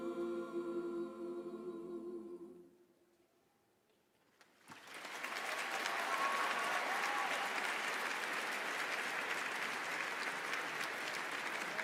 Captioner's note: applause